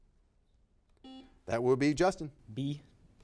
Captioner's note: buzzer beeping